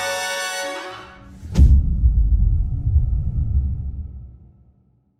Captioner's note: dramatic sound